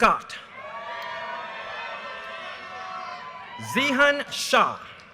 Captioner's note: audience cheers and applause